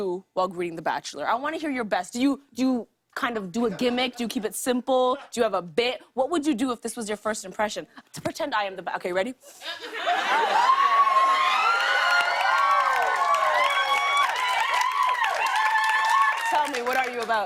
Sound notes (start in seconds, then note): 10.0 laughter, cheers, applause